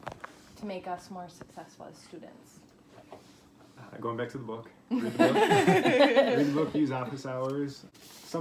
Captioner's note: laughs